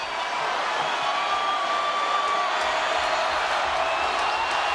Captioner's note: audience cheering